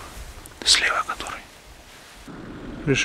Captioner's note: whispers